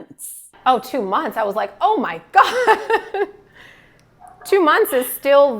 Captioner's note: laughs